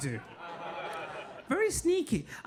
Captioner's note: audience laughing